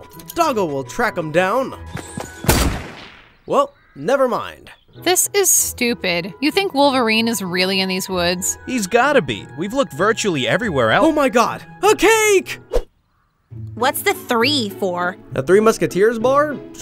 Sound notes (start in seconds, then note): 2.4 gun fires